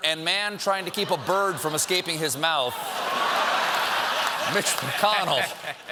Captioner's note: laughter